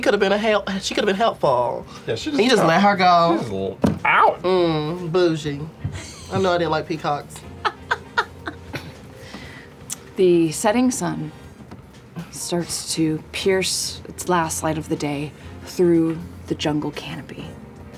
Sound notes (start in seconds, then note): 7.5 laughter